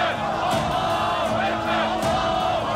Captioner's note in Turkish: Hep bir ağızdan